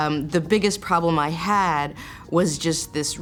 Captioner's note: none